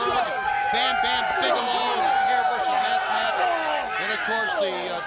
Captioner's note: wrestlers grunting